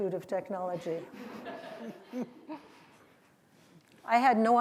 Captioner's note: laughter